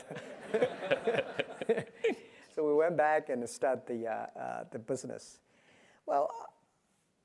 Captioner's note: laugh